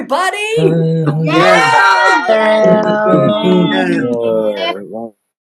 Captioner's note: cheering